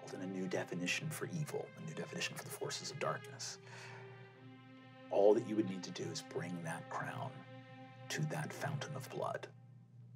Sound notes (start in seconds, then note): none